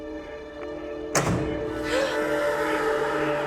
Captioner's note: lights slamming off; gasps; eerie music